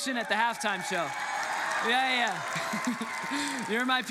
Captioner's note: congregants cheer; laughs